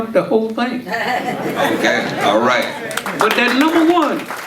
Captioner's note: audience laughing; audience applauding